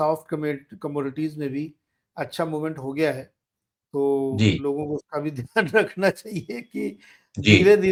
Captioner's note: laughs